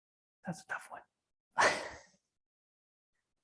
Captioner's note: whispers